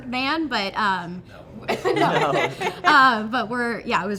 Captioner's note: everyone laughing